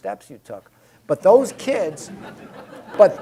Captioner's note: laughing